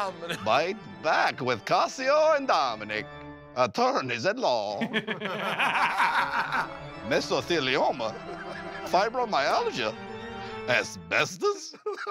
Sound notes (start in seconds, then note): 4.7 laughter